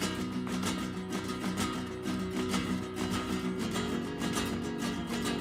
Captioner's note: acoustic music quickens; heels rhythmically clicking